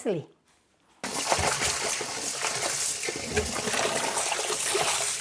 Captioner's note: water splashing